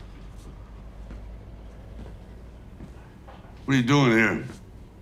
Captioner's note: chair creaking; footsteps padding